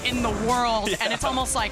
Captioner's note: laughs